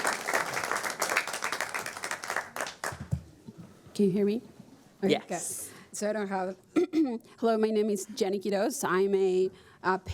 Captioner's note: applause